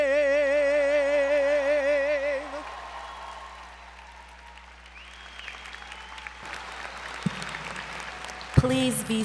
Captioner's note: applause